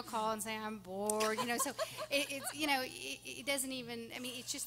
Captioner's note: laughing